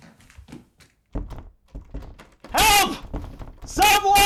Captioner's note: he rattles the door handle